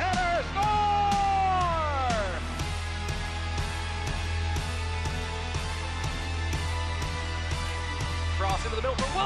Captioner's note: cheering